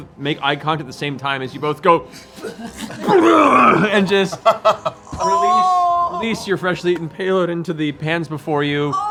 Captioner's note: vomiting sound